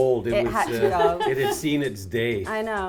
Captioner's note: laughs; chuckles